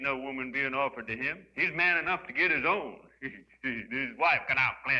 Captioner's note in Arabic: يضحك